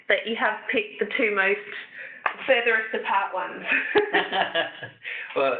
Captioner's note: laughter